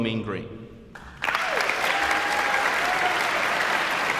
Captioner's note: audience applauds